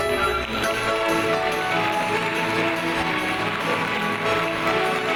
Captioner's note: audience applauds